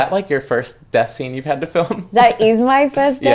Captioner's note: laughs